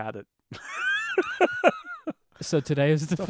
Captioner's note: laughing